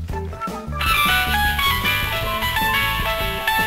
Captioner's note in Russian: телефонный звонок